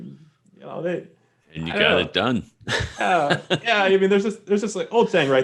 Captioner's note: laughs